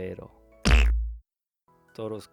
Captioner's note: fart